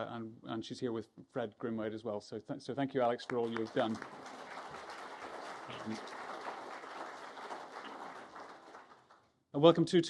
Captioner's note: applause